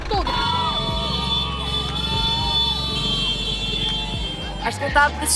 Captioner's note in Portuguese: buzinas de motos